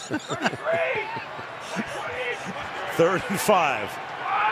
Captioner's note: laughter